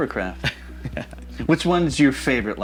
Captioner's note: chuckling